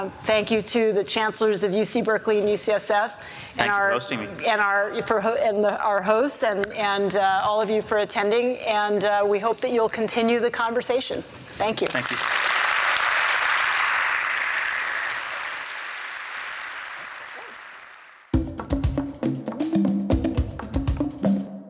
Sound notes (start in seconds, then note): 13.4 audience applauds; 18.2 percussive music